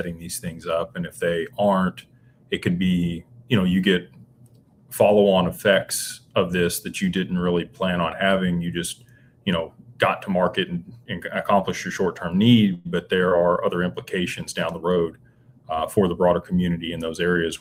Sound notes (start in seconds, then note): none